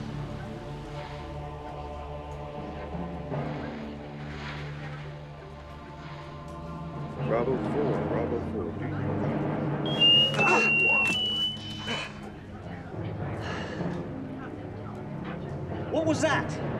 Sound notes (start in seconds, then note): 9.8 whistle; 13.4 sigh